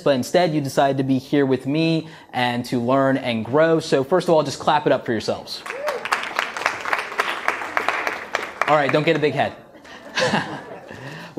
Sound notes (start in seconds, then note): 5.6 audience applauding; 9.6 laughs